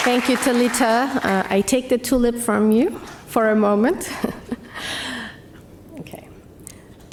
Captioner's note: laughs